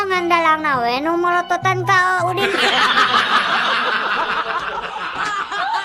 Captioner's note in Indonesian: tertawa